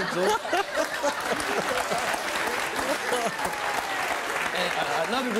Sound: laughing and applauding

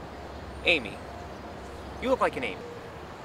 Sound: none

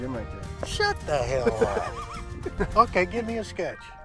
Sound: laughing

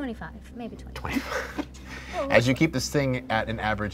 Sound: laughing

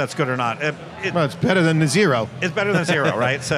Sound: laughs

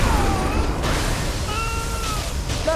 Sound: Hodor screams

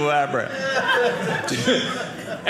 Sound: audience laughing

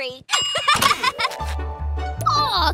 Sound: laughing

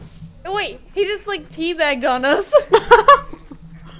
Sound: chuckles

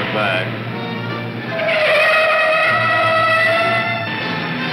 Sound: tires squealing

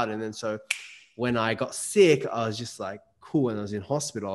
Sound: snaps

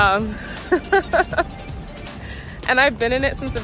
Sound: laughs

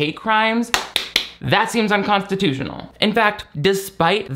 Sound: claps

